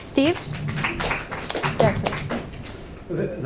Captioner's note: audience applauds